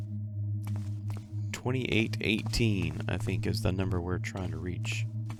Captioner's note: none